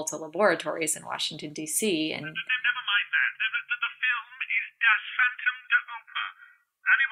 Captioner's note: on phone